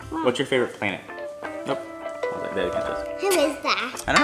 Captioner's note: cellphone ringing